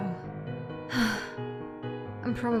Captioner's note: Gal sighs in half griffon